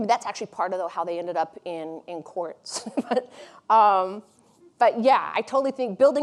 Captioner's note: chuckles